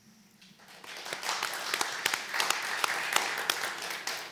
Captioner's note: applause